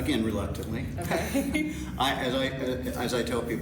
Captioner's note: laugh